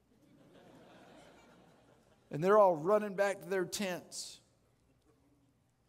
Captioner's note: audience Laughing